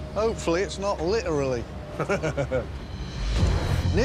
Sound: laughs

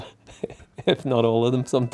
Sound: laughing

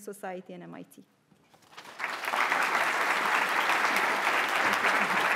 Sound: audience applauding

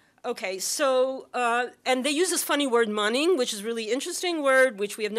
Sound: non-english

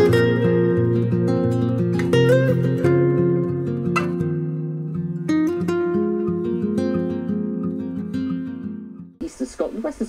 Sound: TV Weather Broadcast

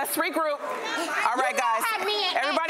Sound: yelling

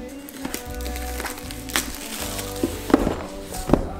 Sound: banging; paper rustling

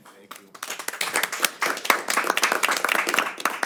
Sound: applause

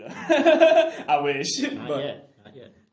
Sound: laughs

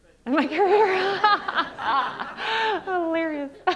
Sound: all laughing

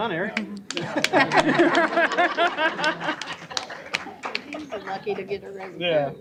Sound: laughter

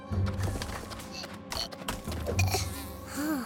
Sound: grunting

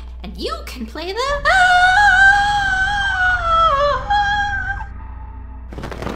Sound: long, shocked gasp

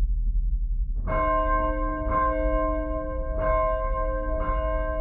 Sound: bell rings

